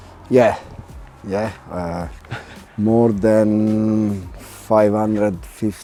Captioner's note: Henry chuckles